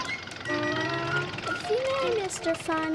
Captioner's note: car rumbling quietly